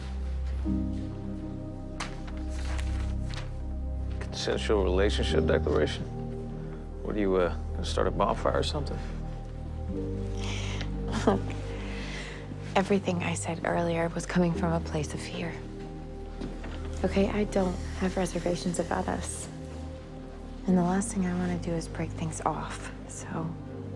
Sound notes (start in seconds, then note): 11.1 chuckling